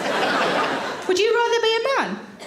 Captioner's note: audience laughs